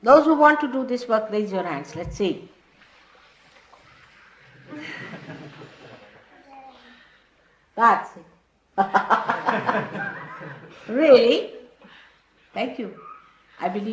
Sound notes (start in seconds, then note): 4.7 Shri Mataji laughs